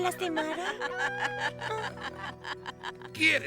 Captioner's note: laughter